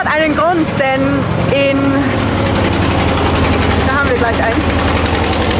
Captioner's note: engine bubbling